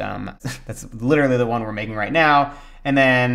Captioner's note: chuckles